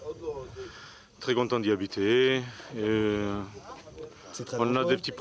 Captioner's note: Hebrew spoken audio